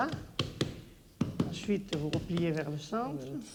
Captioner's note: speaking French